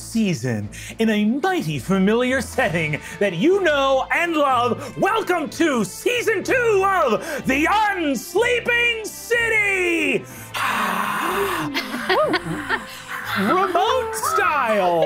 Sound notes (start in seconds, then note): 10.6 players cheering